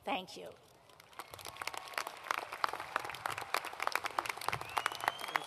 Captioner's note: applause